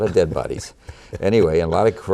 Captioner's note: laughter